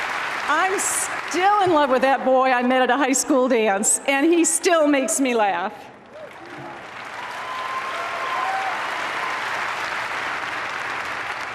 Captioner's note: applause